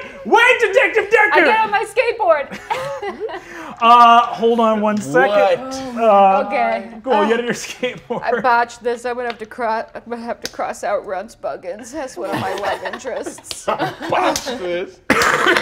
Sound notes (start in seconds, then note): 2.5 laughs; 12.2 players laughing